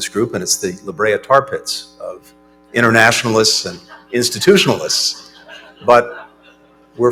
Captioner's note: laughter